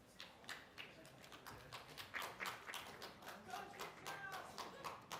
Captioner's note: applause